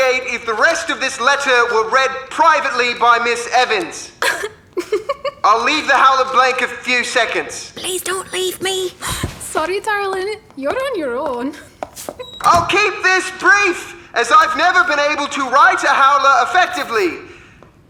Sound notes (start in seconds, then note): 4.2 Marlene giggles